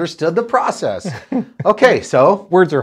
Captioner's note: chuckles